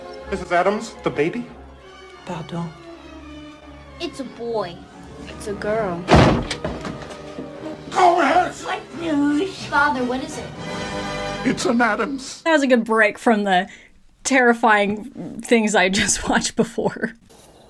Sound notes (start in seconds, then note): 0.0 Morticia speaking in French; 2.0 Morticia speaking in French; 6.0 door slams